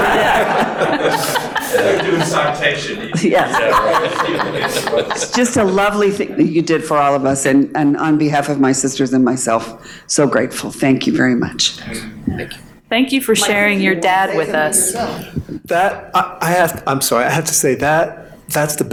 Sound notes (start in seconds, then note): 0.0 panel laughing; 3.9 murmuring